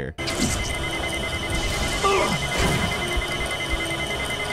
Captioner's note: timer beeping